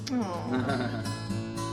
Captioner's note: laughs; happy music